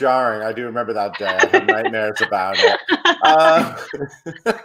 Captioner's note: laughs; laughing